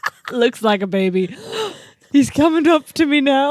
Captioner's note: laugh; gasps